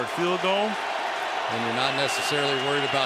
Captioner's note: cheering